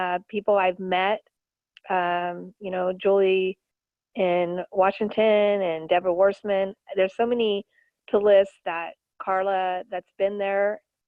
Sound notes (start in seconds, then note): none